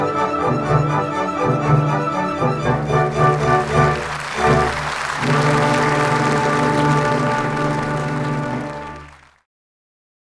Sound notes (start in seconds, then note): 2.6 credits music plays; 3.0 applause